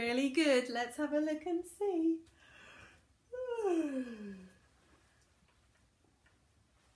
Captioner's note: yawning